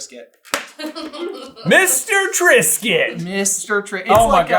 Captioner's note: laughing